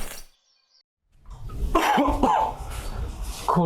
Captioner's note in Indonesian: batuk